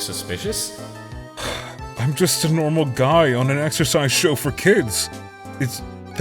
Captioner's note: sigh